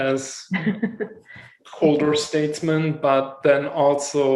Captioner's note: laughs